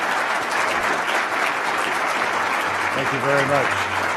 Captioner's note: applause